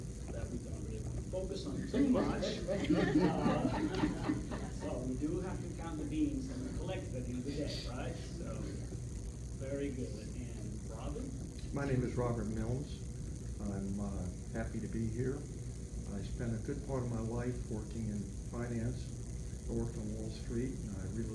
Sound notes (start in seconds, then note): 2.5 laughter